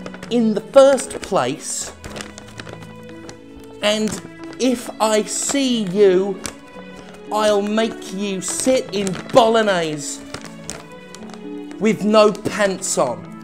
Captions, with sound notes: in the first place... and... if I see you... I'll make you sit in bolognaise... [paper crinkles] with no pants on.